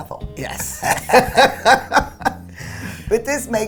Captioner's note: laughter